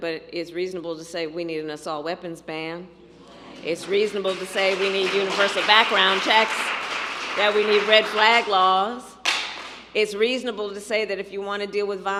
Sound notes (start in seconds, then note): 3.4 applause